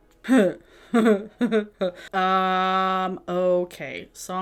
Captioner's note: laughs